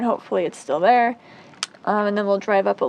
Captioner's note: loud click!